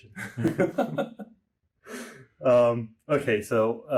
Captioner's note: both laugh